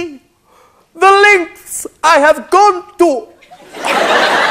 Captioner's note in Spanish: Acento italiano